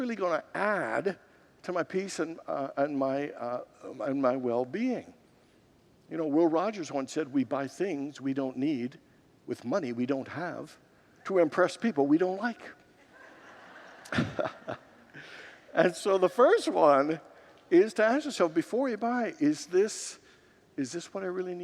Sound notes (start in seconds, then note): 13.0 congregants laugh